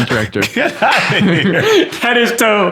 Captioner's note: laughter